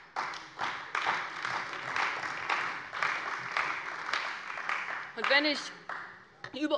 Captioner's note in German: Beifall bei der CDU und dem BÜNDNIS 90/DIE GRÜNEN